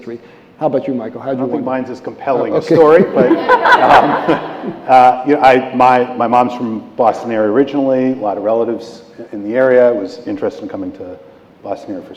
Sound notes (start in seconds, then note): 2.6 laughter